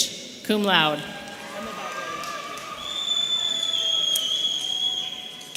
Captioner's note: audience cheering